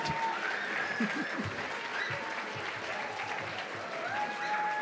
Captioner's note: cheers and applause